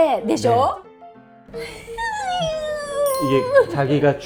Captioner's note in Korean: 흐윽